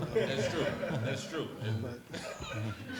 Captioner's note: laughs